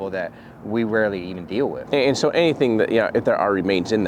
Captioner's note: none